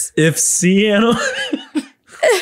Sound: laughs

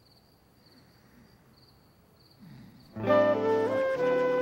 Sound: snores and sputters; tranquil music

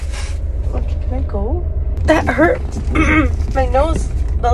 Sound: ahem

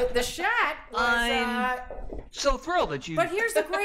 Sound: Imitating William Shatner

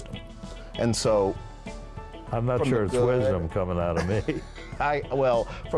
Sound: laughs

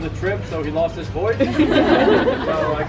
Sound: laughter

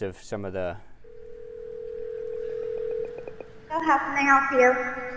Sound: phone rings

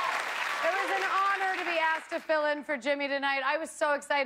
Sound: cheers and applause

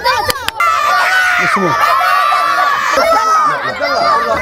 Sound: crowd shouting

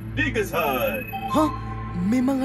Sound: Mechanizer chimes

